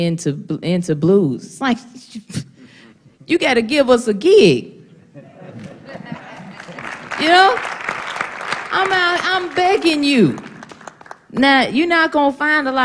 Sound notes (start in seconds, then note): 5.0 laughter; 6.0 applause